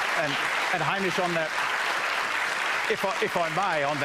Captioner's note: applause